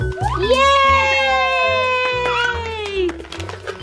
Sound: cheers

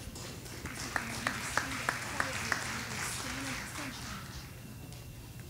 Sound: audience applauding

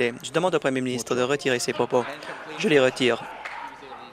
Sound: applause

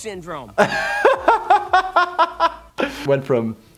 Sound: laughing

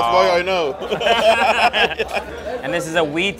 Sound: laugh

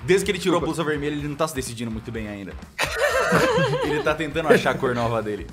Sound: everyone laughs

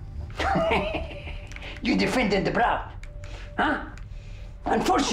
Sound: laughs

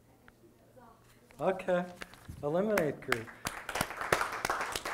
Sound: audience applause

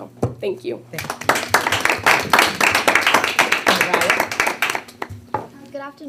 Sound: board members applauding

